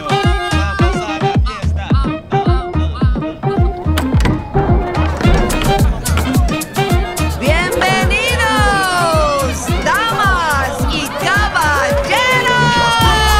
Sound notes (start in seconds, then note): 0.0 reggaeton music; 3.8 door opening; 5.1 festive chatter